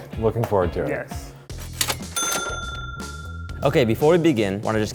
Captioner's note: cash register sounds